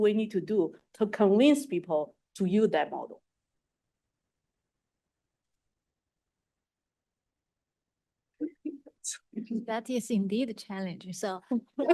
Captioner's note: pause